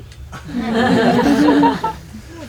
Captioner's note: laughter